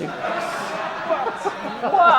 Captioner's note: audience laughs